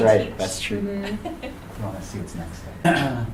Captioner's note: attendee laughing